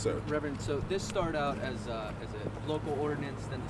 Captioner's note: voiceover